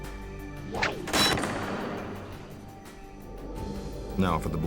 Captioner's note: metal clangs